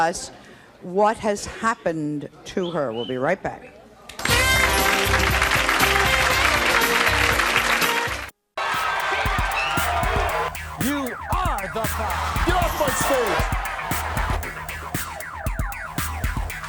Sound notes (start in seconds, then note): 4.5 upbeat music; 4.6 clapping